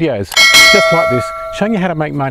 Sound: bell clanging

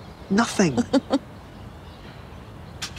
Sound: chuckles

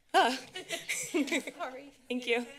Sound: laughs

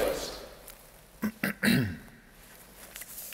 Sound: clearing throat

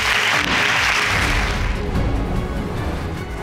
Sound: applauding

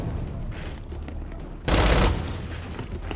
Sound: gunfire

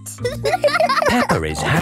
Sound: giggles; laughing

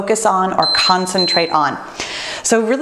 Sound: timer beeps

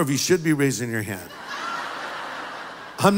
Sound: laughter

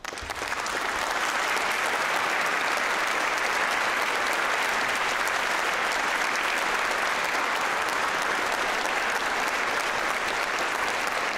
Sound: applause

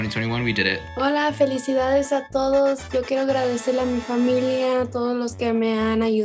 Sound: speaks in foreign language

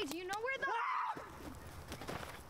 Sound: screams

